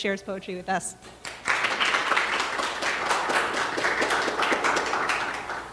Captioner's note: audience clapping